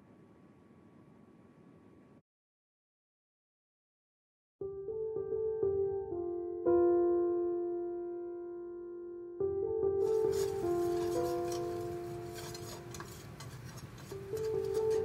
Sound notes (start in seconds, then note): 4.8 light somber music; 10.0 whisk scrapes